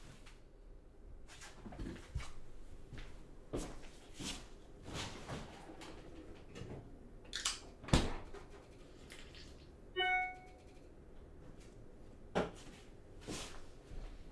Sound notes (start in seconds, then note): 10.0 dinging